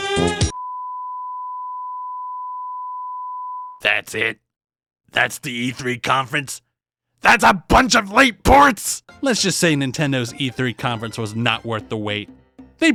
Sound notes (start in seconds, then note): 0.5 TV Bar Noise